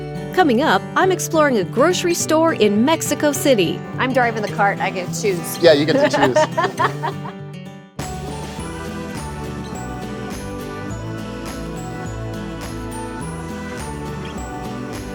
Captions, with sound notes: Coming up, I'm exploring a grocery store in Mexico City. I'm driving the cart. I get to choose. - Yeah, you get to choose. [laughter] [upbeat music]